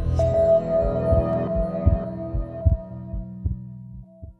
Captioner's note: tranquil new age music; heart beating